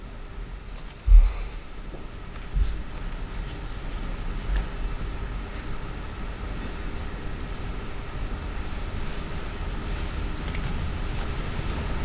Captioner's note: quiet rustling